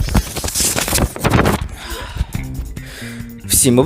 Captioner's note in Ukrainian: шурхіт листочками